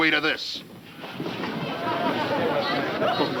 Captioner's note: people chattering